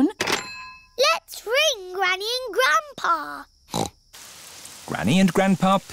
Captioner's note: snorts